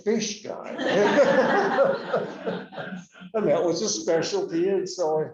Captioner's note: laughter